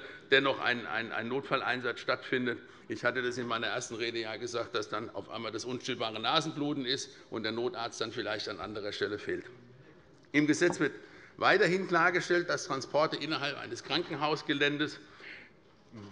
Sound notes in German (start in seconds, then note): none